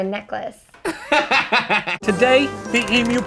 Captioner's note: laughs